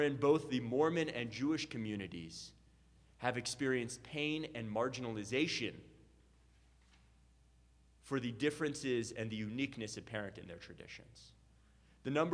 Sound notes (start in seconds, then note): none